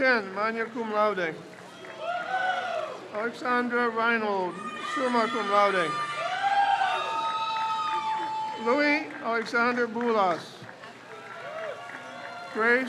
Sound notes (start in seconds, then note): 1.3 crowd cheers; 6.2 crowd cheers; 11.2 crowd cheers